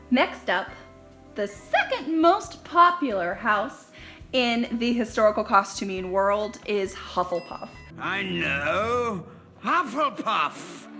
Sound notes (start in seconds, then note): 7.3 dings